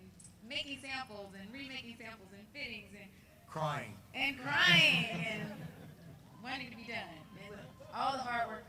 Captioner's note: crying